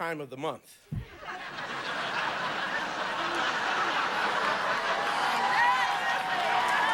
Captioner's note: audience laughing